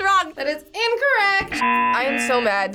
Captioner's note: buzzer rings